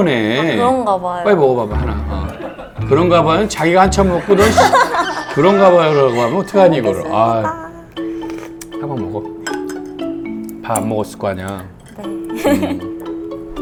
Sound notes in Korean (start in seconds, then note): 1.7 제작진 웃음소리; 4.2 꺄르르